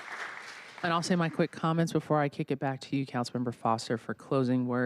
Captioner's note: applause